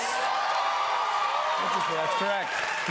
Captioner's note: cheers and applause